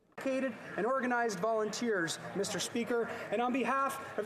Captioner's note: speaking French